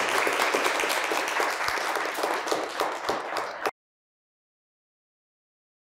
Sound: audience applauding

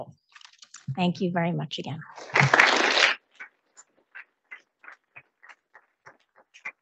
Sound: audience applauding

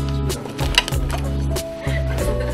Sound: sighs

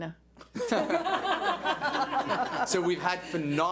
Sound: board laughs

